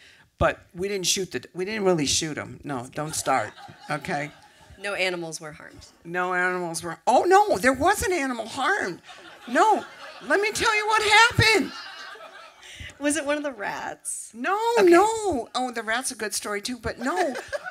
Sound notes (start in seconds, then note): 11.4 laughter